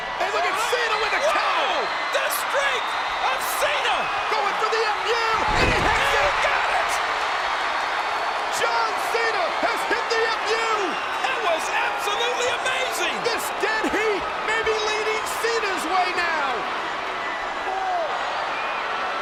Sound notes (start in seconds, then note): 7.5 crowd cheering